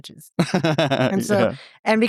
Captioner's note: both laughing